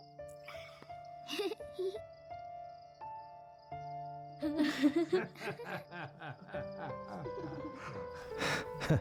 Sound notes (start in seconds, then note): 4.4 giggling and laughing